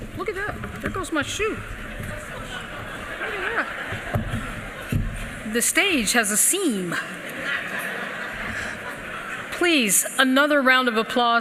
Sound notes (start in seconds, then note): 2.2 laughter